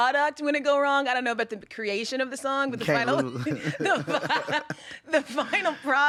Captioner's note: both laughing